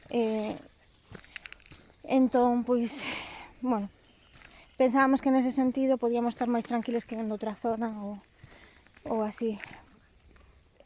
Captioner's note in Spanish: suspira